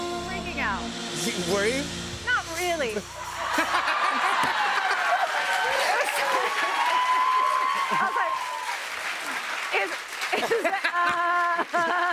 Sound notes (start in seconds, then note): 3.4 laughter; 4.5 laughs; 7.7 cheers and applause